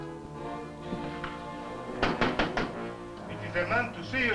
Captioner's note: knocking at door